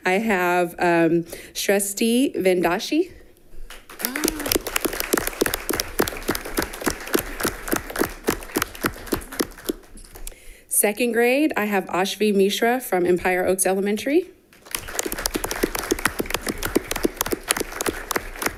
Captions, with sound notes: I have Shrushthi Vedanshi. (all clapping) Second grade I have Aashvi Mishra from Empire Oaks Elementary. (all clapping)